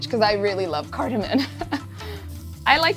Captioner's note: laughs